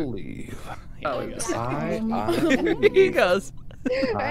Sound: laughing

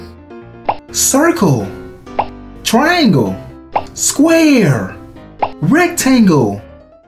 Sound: offscreen Voice

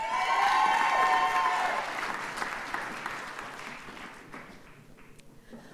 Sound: audience cheers and applauds

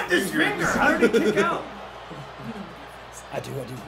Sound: laugh

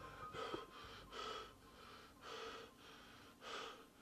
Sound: Dave yelling; Dave gasping

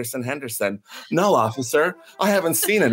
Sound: laughs and music starts again

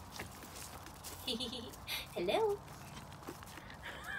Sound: giggle

